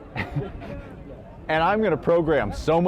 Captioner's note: chuckles